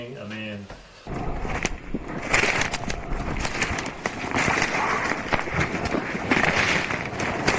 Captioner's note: stomping something